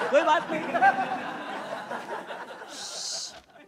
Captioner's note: All laughs